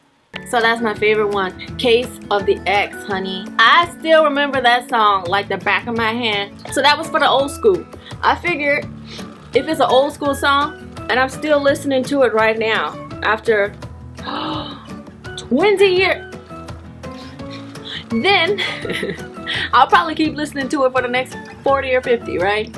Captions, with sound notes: So that's my favorite one, 'Case of the Ex', honey I still remember that song like the back of my hand So that was for the old school, I figured if it's an old school song and I'm still listening to it right now after *gasp* 20 years-... Then (laughs) I'll probably keep listening to it for the next 40 or 50, right?